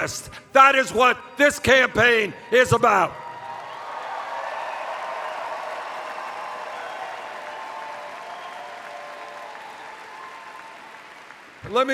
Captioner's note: cheers